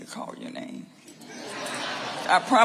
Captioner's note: audience laughing